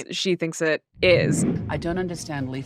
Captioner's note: screen whooshing